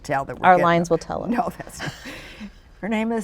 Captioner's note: chuckles